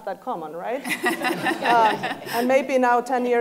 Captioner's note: laughing